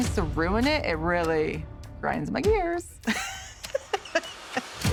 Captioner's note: laughs